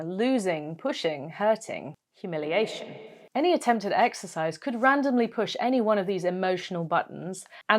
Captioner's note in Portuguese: com eco